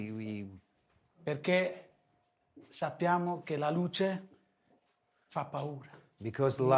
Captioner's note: speaking foreign language